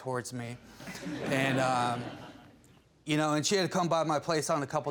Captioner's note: audience laughing